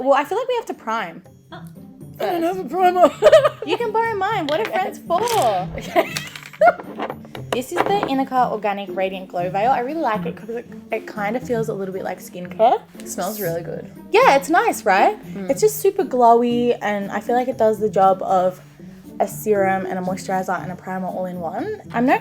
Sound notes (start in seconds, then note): 2.8 laughs; 5.3 laughs